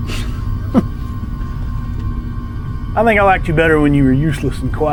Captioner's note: laughs